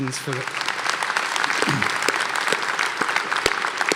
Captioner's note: applause